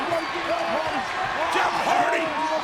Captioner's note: audience cheering